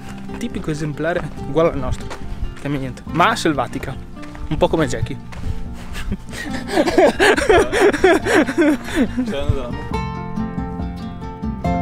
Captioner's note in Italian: Risate